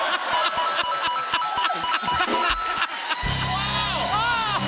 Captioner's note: laughter; Mario coins rapidly dinging